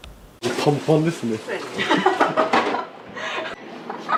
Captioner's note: laughs